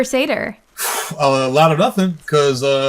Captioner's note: exhales sharply